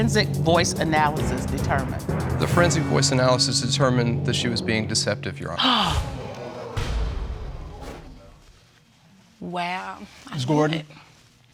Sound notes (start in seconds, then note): 5.6 all gasp